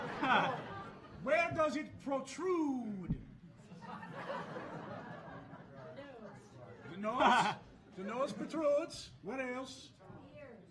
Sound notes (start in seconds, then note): 3.7 audience laughing